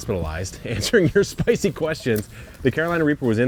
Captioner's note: laughing